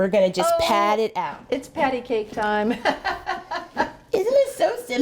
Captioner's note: laughing